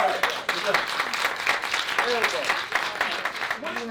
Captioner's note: applause